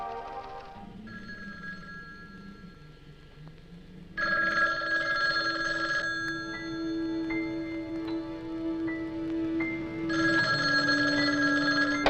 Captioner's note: phone Ringing